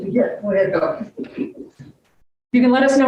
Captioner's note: moderator chuckles